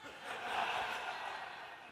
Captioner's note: audience laughs